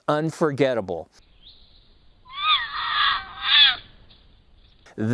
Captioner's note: mountain lion caterwauling